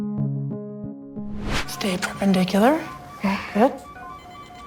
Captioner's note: medical equipment beeping